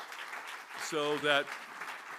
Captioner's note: applause